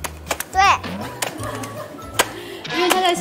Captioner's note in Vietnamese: Ha ha ha ha ha ha